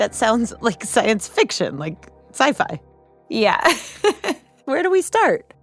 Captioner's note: laughs